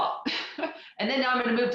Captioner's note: laughs